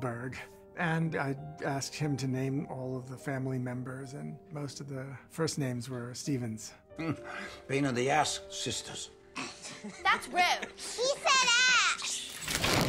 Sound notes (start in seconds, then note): 6.9 chuckles; 9.0 snorts